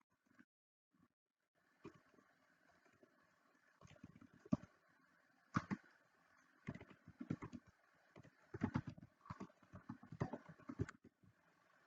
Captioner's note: typing on computer keyboard